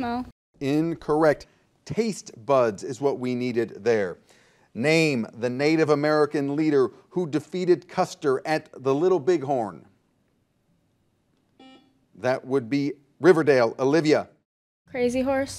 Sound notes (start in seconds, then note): 11.6 buzzer dings